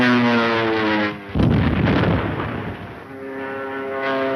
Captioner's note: bomb exploding; airplane engine revving